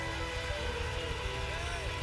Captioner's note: cheers and applause